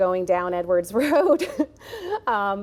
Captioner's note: giggles